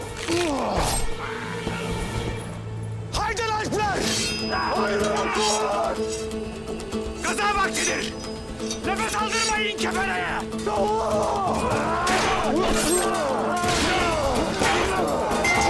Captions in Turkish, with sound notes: (Boyun kırılma sesi) (Kılıç sesi) Haydin Alpler! Haydin Alpler! Gaza vaktidir. Nefes aldırmayın kefereye. Allah! (Dövüş sesleri)